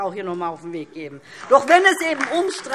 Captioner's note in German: Beifall